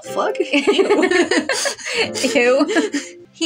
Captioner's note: laugh; snicker